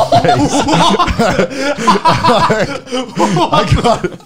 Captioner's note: laughing